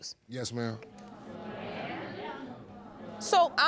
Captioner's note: audience jeering